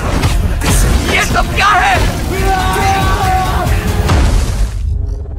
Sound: yelling

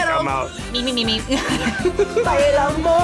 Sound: both laugh

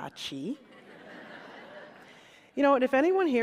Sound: laughter

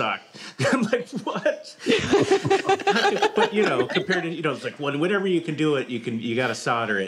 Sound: laughs

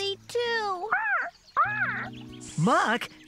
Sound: quack! Quack!

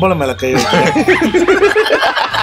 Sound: laughs

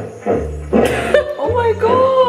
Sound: laughs

